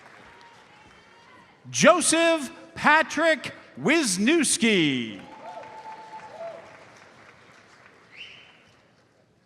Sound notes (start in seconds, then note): 5.2 audience cheers and applauds